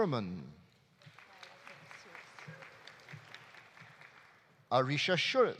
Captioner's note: audience applauding